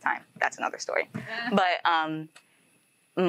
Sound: host laughing

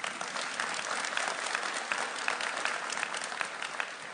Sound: applauding

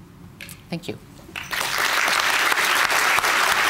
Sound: applause

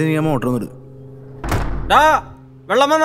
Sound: door closes

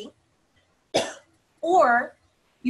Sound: coughing

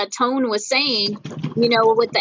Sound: stomping feet

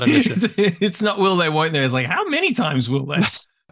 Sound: laughs

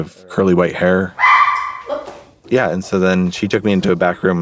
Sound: dog barks

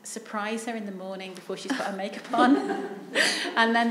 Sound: chuckles

